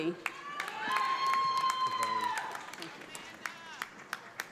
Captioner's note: audience applauds